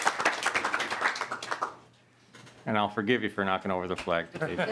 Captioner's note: applause